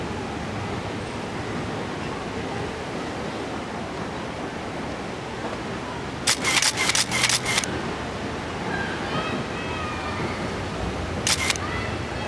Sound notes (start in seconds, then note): 6.2 camera shutter clicks; 11.2 camera clicks